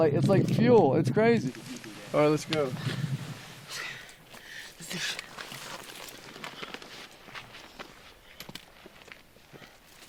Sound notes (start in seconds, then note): 2.7 breathing heavily